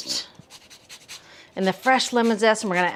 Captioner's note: lemon scraping